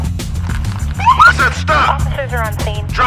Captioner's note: siren wails